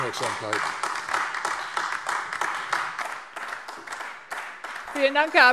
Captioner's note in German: Beifall AfD